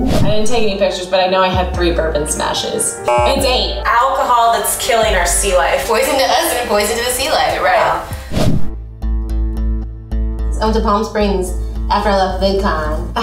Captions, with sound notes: - I didn't take any pictures but I know I had three bourbon smashes, it's eight. (buzzes) It's alcohol that's killing our sea life. - Poison to us and poison to the sea life. - You're right. - Wow. (soft music) I went to Palm Springs after I left Vidcon,